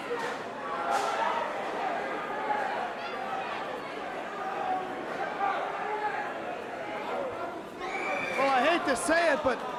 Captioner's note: crowd cheering